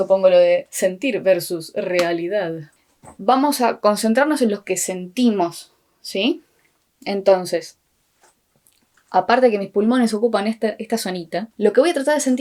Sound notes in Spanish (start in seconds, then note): none